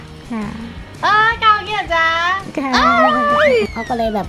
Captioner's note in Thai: ร้อง